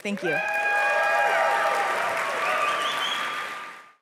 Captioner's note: applause